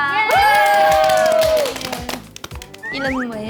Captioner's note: applause